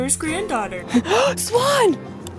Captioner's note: gasp